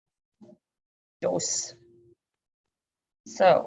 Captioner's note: speaks foreign language